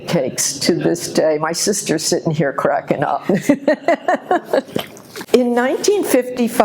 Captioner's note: laughs